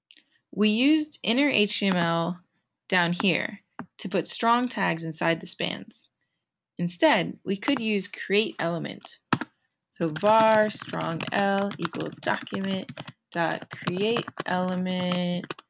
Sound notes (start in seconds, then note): 10.0 typing